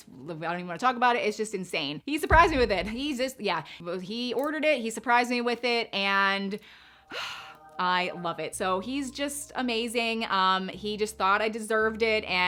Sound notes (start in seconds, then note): 7.0 sighs